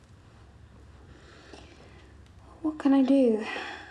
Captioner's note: sighs